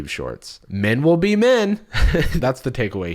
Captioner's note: laughs